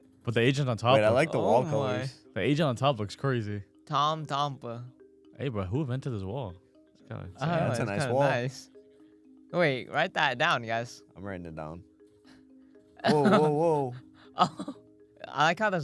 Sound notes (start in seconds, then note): 7.1 laughs; 13.0 laughs